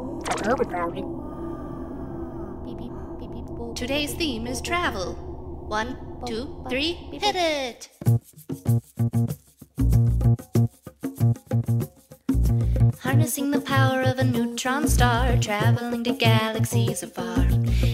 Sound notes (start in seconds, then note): 1.6 alien background noises